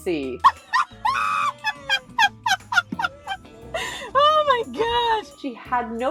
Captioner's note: Chewbacca noises through fits of hilarious laughter